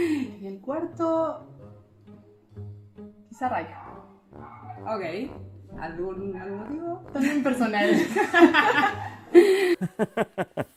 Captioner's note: laughs